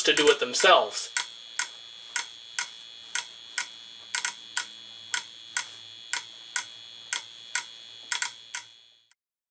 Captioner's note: module continues to click. Strobes emit a faint, high-pitched whine